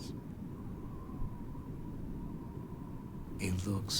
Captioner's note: wind whooshing